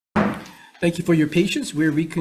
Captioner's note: gavel thuds